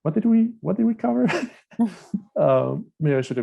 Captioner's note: laugh